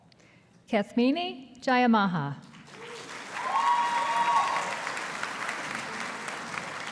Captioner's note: audience applauding